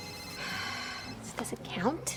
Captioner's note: phone rings